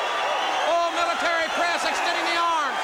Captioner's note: crowd cheering